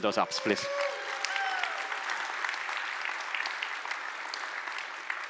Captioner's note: audience applauds